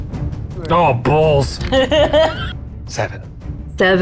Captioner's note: dice rattling; laughing